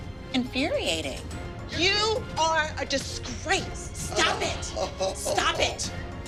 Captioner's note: chuckles